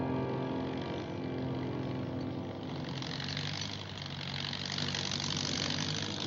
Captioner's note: heavy Vehicle Engine Rumbling